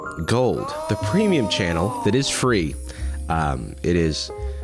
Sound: disembodied voice

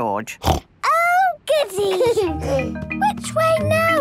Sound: snorts; George giggles

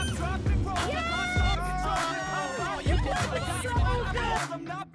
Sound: excited cheering

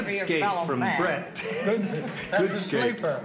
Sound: chuckles

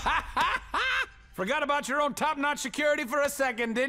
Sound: thud; laughs

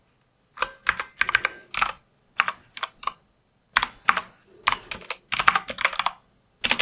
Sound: typing

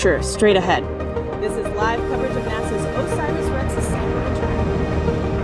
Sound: voice continues far away

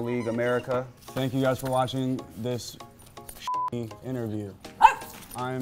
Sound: beep

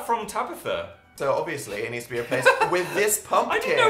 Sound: laughter

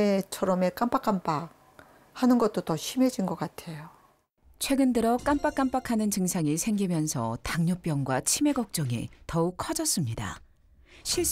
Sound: voiceover

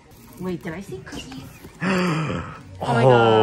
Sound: gasps

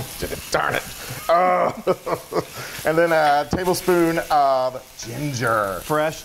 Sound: laugh

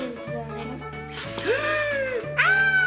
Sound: gasps; fake screams

